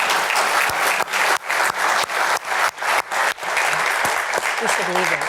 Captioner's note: applause